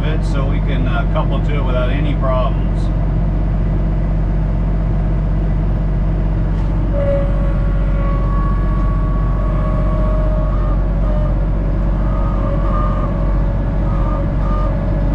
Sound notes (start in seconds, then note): 2.6 engine humming; 7.1 tractor whirring